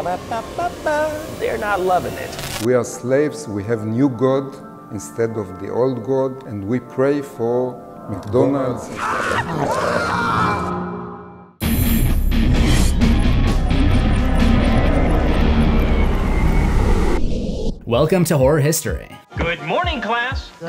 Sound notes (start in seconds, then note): 8.9 screams